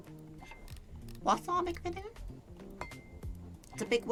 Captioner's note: Elmo voice